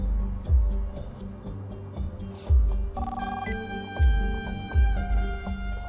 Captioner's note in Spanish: Suena el teléfono